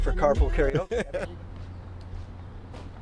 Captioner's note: laughter